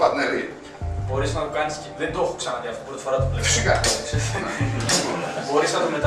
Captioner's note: laughter